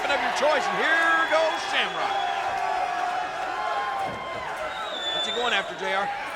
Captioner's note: crowd shouting